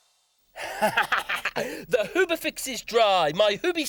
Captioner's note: laughs